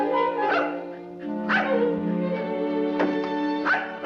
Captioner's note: playful music; dog barking